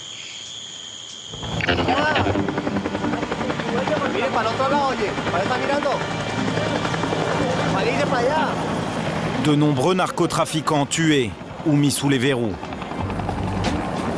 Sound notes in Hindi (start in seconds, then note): 3.0 हेलीकॉप्टर लैंडिंग; 5.3 स्पैनिश बोलते हुए